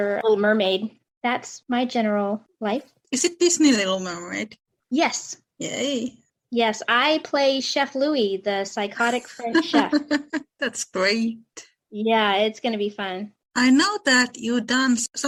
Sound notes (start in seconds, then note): 9.2 laughter